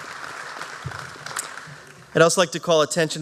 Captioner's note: applause